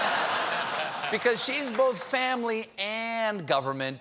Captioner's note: laughter